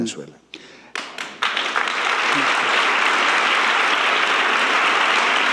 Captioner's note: audience applauding